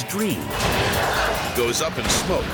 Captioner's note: flames erupt